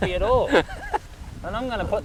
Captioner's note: laughs